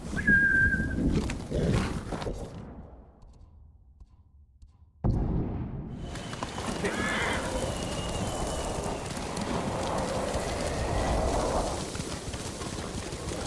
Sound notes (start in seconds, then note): 0.0 whistling; 6.8 horse neighing